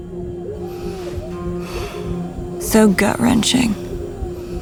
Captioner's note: fighter sighing